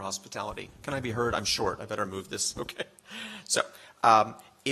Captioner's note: laughs